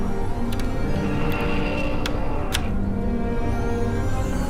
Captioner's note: unlocking and energy sounds